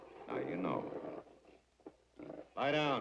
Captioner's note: dog growling